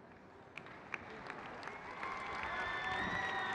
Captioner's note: crowd cheers